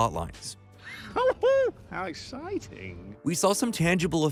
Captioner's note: gleeful laughter